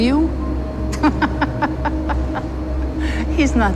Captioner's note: laughing